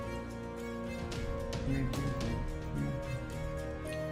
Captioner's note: humming along